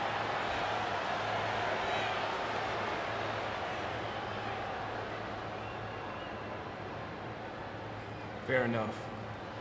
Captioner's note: crowd cheering